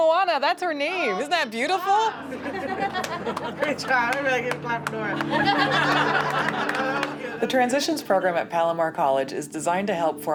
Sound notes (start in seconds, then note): 5.1 laughing